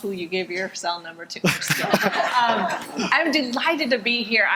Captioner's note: audience laughing